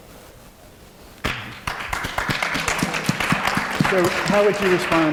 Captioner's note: applause